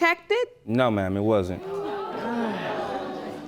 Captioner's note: sighs